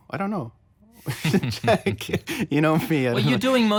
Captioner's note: laughs